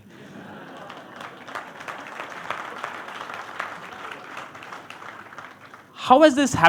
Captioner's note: laughter